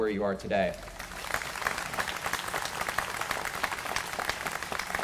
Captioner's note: applause